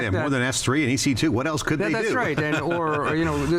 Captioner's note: laughs